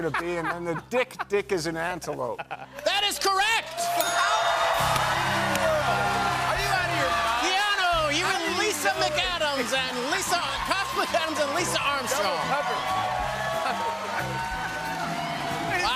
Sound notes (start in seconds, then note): 4.0 ding!; 4.4 cheers and applause; 13.7 cheers and applause